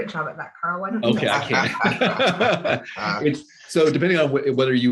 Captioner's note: laughing